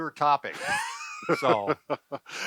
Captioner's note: laughing